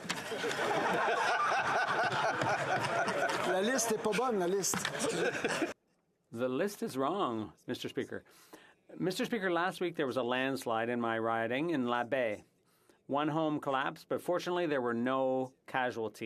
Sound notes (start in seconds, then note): 4.7 laughter